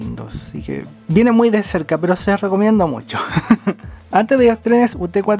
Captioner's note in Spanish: risas